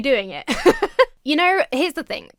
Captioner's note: laughs